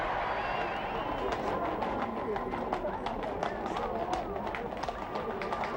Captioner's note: horses hooves clopping